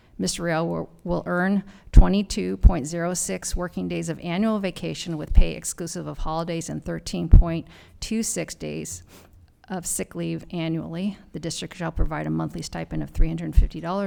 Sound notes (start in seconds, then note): none